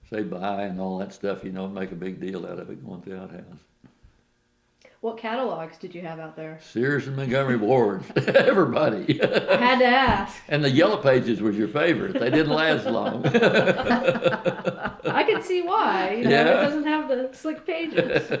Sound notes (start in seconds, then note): 8.4 laughs; 11.8 laughter